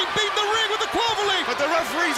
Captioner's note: crowd cheering